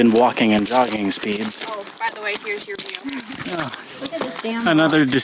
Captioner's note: laughs